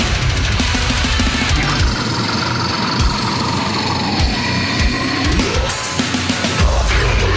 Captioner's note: groaning